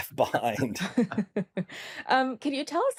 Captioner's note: laughter